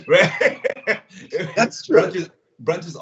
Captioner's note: both laugh